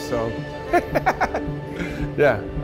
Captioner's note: chuckling